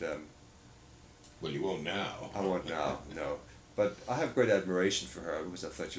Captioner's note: laughs